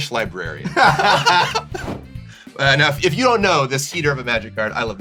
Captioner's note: laughter